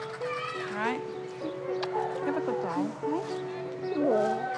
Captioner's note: kisses